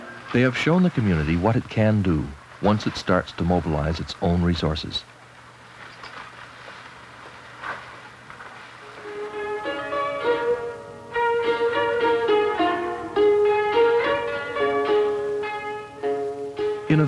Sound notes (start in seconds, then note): 0.0 threshing sounds; 5.5 threshing sounds; 8.8 instrumental music